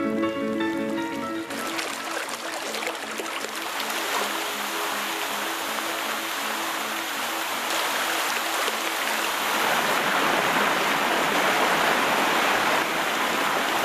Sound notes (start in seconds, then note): 1.5 water falling